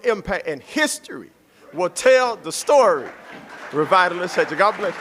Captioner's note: applause